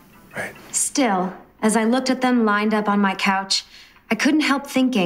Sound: inner monologue

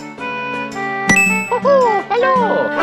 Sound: ting

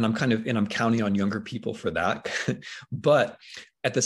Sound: chuckles

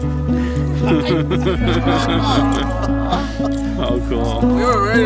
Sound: laughter

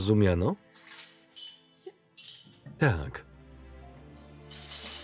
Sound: chains rattling

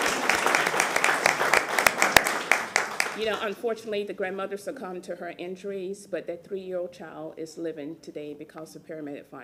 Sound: applause

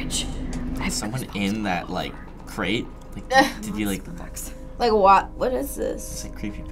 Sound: laughs

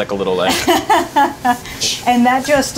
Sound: laughing

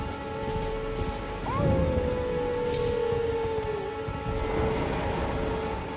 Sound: howling

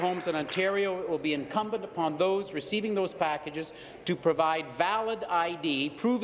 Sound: applause

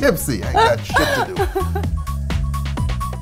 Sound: laughing

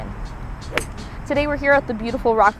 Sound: swooshing Of Air

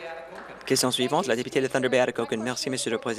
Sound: applause

